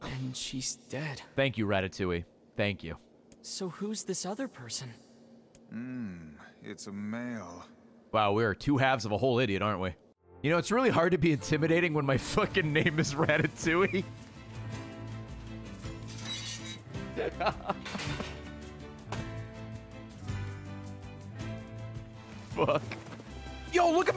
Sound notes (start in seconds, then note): 17.1 laughs